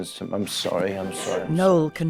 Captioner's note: speaker sobbing